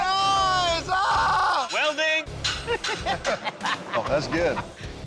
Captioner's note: laughter